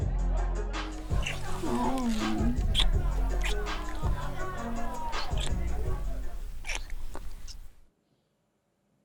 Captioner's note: sounds of kisses and sighs